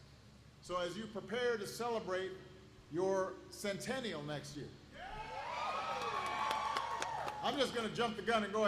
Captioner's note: applause